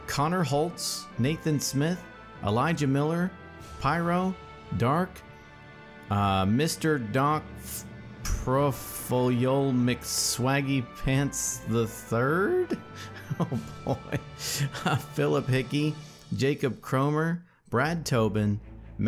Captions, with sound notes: Connor Hotz, Nathan Smith, Elijah Miller, Pyro, DARQ, MrDocProfyolomcswaggypants III? (laughs) Oh boy. Phillip Hickey, Jacob Kromer, Brad Tobin,